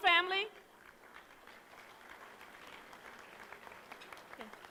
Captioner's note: applause